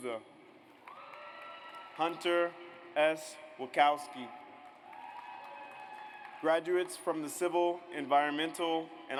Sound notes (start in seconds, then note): 0.8 audience cheers; 4.6 audience applauds